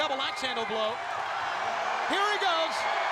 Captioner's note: crowd cheers